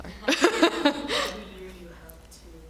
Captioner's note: laughing